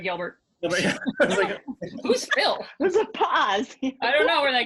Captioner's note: laughing